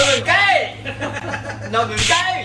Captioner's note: laughs